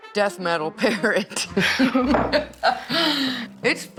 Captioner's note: laughs